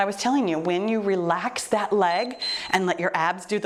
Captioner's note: timer beeps